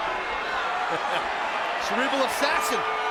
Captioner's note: Tazz chuckles